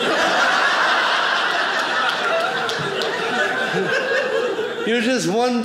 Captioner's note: audience laughing